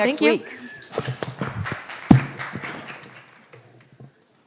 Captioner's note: audience claps